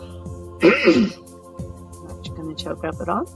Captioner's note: coughs